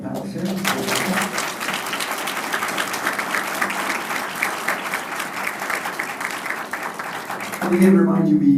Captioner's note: applause